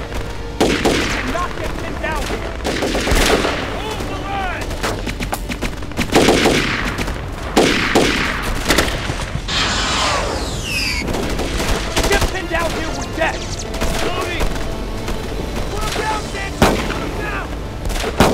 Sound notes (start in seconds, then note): 4.8 guns firing; 13.8 shouting